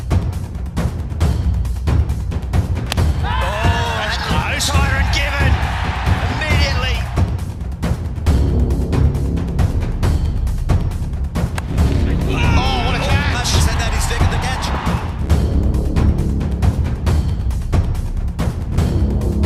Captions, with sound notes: [CHEERING] - Oh, that was given Immediately! Oh, what a catch! Oh, having said that, he's taken the catch!